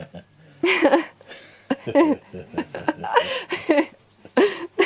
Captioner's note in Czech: smích